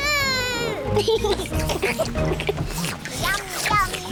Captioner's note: all slurp